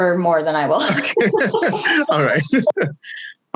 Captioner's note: all chuckles